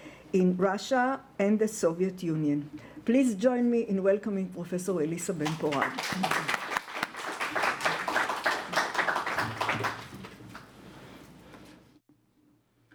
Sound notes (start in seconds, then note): 7.5 applause